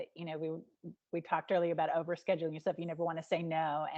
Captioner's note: none